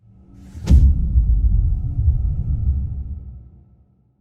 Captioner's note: dramatic sound